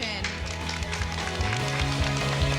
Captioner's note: applause